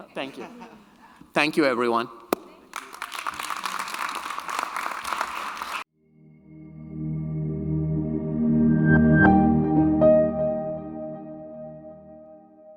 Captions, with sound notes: Thank you. Thank you, everyone. (audience applauding) (bright music)